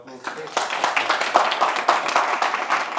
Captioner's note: clapping